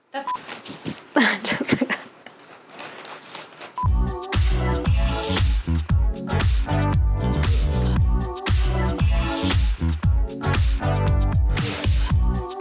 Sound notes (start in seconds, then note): 1.1 laughs